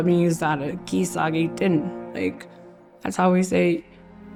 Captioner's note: speaking Cree